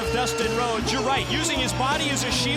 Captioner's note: bell ringing